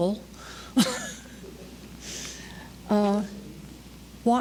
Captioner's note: laughter